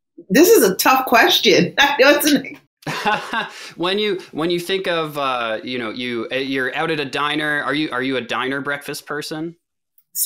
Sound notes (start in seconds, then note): 2.8 laughs